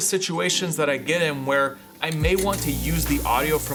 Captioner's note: sizzling